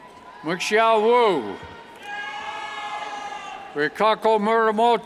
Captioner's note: cheers